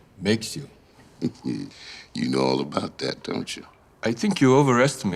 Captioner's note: chuckling